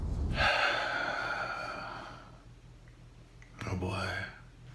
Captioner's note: heavily sighing